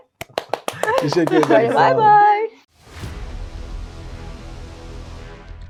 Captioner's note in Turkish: alkış